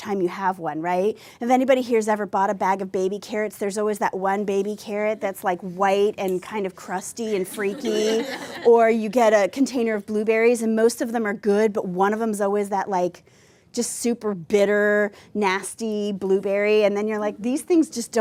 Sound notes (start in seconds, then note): 7.4 laughter